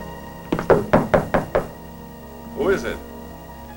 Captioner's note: knocking